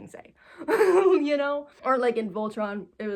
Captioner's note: giggles